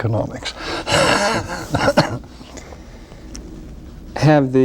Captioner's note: laughter